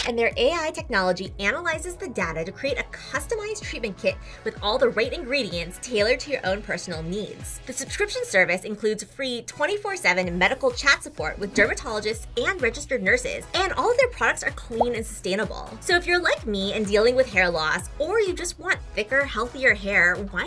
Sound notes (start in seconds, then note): none